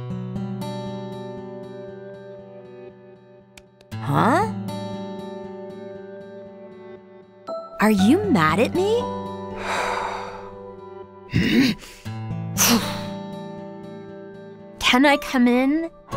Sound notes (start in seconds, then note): 0.1 melancholic music starts; 9.5 exhales; 9.5 sighs